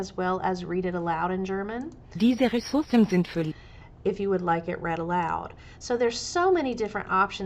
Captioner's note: sample German read aloud